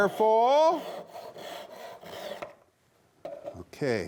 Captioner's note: saw scrapes